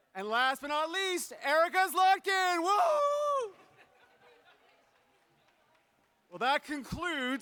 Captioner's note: laughter